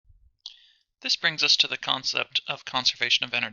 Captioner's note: voiceover